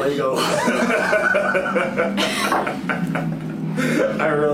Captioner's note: both laughing